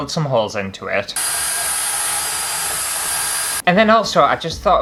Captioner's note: power Drill Sounds